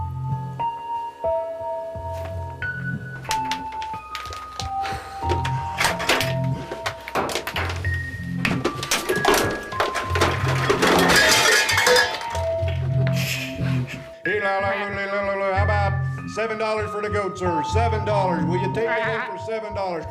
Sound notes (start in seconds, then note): 0.0 mystical Music; 10.4 crashing Sounds